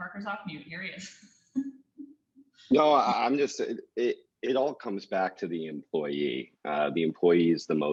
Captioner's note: laugh